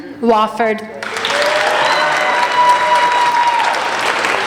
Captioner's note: applauding